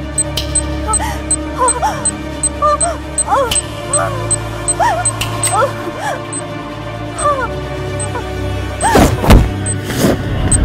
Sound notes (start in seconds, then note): 0.1 bomb beep; 3.4 fingers snap